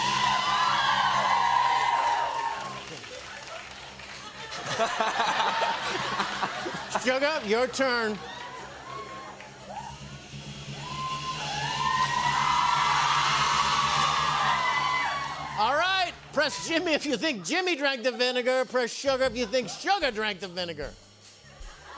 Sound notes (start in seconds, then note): 0.3 cheers and applause; 4.2 laughter; 10.9 cheers and applause